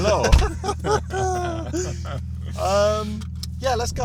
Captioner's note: both laugh